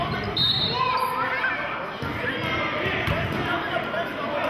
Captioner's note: whistling